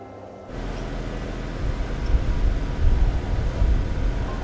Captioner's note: wind humming